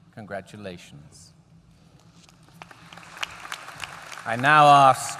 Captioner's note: applause